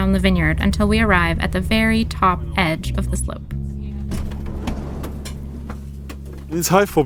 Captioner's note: rustle of people and equipment leaving the van